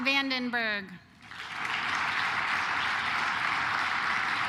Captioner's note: claps